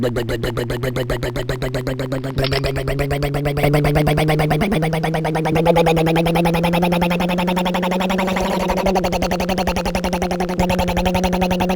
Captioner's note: rumbling motor